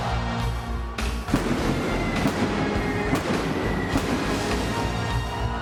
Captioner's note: pyro blasting